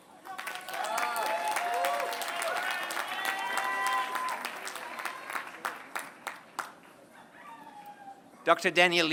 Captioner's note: applause